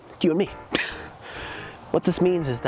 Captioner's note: laughs